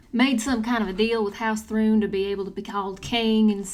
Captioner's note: none